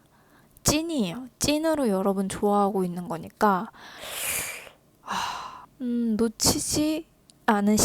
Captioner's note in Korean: 한숨